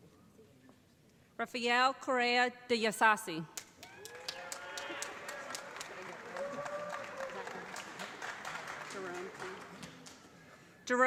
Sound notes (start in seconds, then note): 3.6 applause